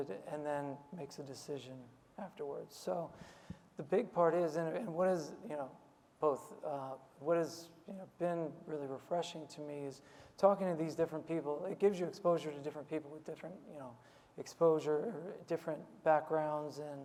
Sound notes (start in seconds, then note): none